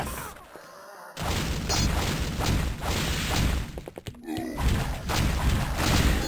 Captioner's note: whooshing, blows landing, Seraph Guards groaning throughout